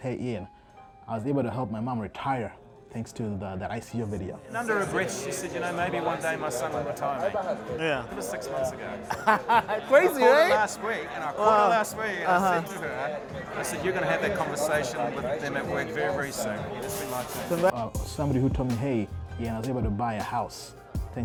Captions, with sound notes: hey Ian, I was able to help my mom retire thanks to that ICO video. Yeah. (laughs) Crazy, right. Somebody who told me, hey, I was able to buy a house